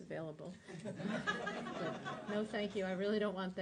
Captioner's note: laughter